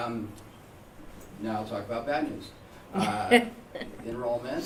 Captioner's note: laughter